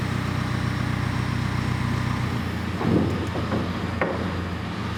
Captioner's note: whirring continues